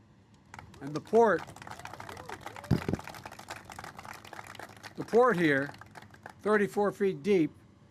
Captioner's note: applause